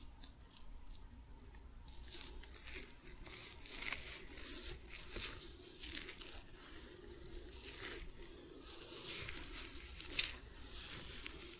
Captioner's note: sticky sounds, rubbing